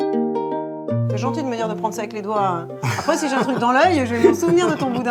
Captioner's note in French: rires